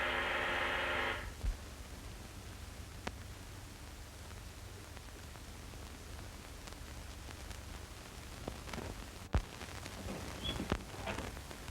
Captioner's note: doorbell buzzing